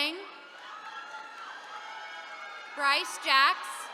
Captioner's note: attendees cheering